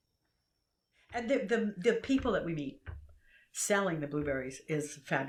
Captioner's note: none